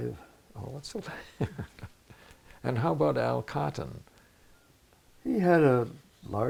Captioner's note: laughs